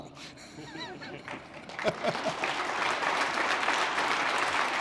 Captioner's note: applause